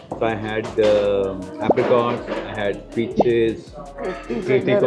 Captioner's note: nasal sound